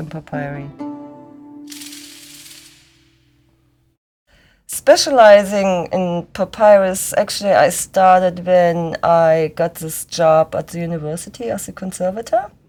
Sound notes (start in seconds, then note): 2.5 pause